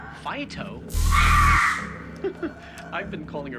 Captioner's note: zapping, screaming; laughs